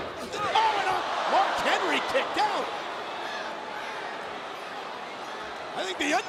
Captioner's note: crowd gasping